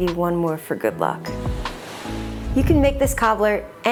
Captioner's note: graphic whooshes